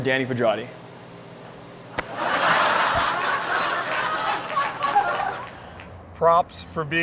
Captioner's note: laughter